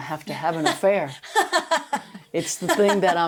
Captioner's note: laughing